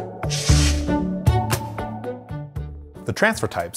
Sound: upbeat music; air whooshes

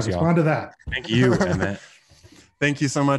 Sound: laughing

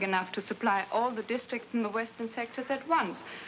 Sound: none

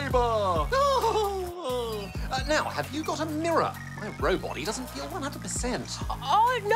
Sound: laughs

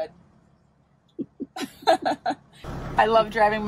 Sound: laughing

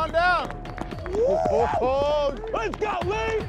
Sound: cheering

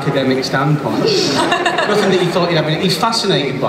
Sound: laughter

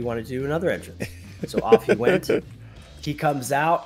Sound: laugh

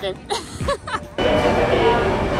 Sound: laughs

